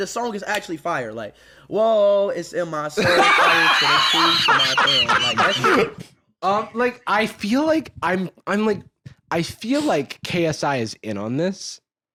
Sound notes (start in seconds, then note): 3.0 both laughing